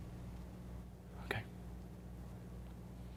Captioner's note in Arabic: بهدوء